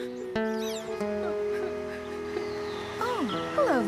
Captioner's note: crying Softly